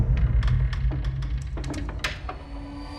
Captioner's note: creaking